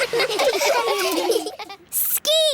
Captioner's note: laughing